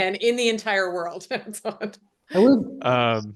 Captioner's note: laughs